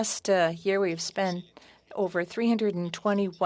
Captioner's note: speaking French